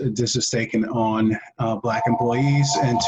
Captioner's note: phone rings